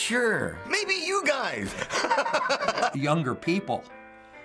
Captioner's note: laughs